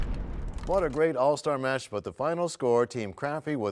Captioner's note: crashing sound